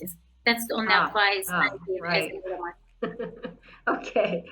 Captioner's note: faintly speaking; laughing